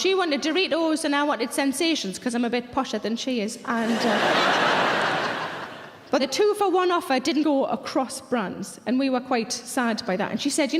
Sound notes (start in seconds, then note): 3.8 audience laughs